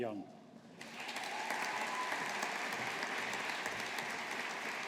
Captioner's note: audience applauding